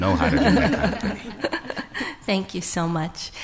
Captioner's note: laughter